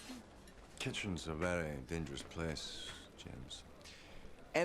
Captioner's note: none